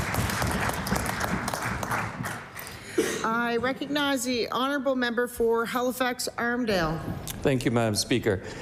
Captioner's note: applause